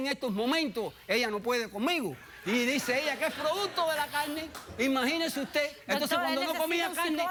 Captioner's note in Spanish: risas